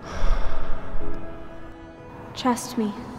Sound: deeply sighing

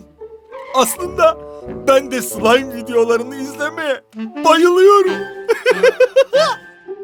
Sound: laughs

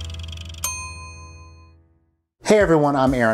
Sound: dinging

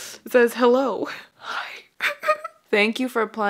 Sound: laughs

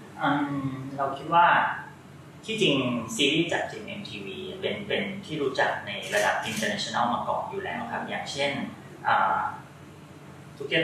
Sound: answering in Thai

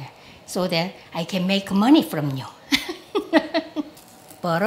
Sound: laughs

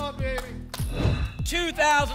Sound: whoosh

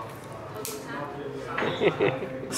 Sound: snap; laughs

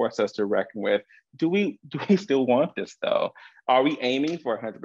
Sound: chuckles

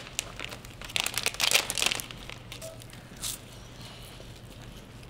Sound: bag tearing; wafers crunching

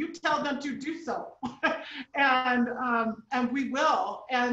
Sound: chuckling

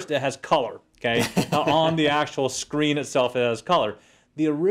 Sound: laugh

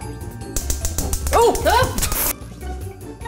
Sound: gas clicking

